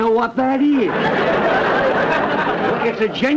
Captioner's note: audience laughter